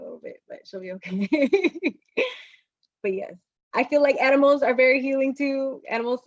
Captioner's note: laughter